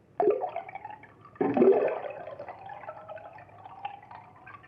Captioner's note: water sloshing